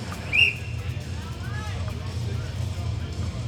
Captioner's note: whistle blows